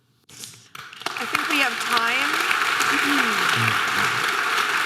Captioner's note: audience applause